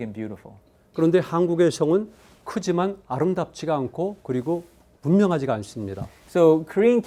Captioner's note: speaking in Korean